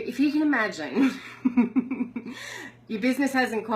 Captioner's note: laughs